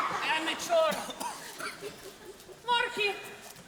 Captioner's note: coughing